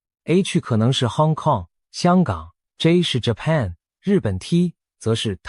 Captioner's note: Korean